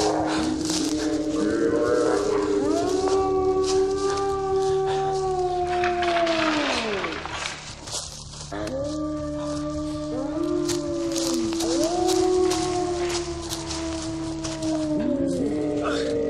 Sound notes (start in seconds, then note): 0.0 roar; 1.5 howling all around; 5.0 tree falling; 10.9 howling; 14.4 howling